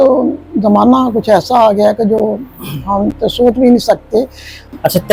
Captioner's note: clears throat